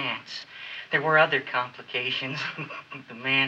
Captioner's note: chuckles